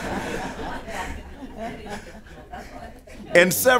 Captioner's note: laughter